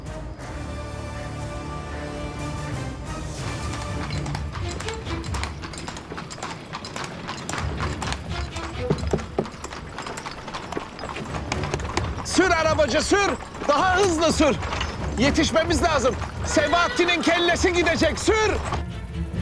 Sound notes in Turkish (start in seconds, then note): 0.3 Müzik - Gerilim; 7.2 At arabası sesi